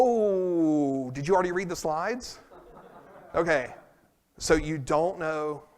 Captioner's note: laughter